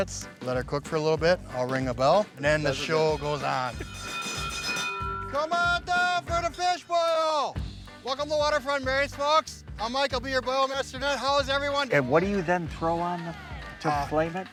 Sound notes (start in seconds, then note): 2.6 bell ringing